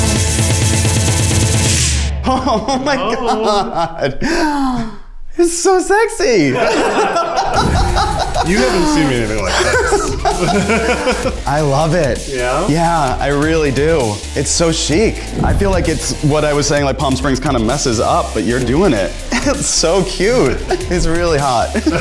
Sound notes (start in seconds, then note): 6.4 everyone laughs; 10.4 laugh